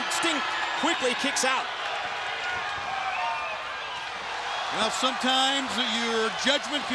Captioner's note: crowd cheering